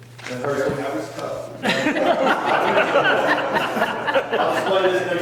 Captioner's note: people laughing